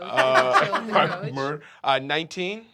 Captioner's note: laughs